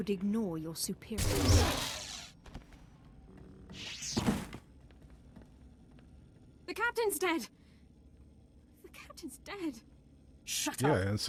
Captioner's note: gunshots